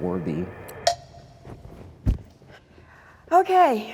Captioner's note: beeps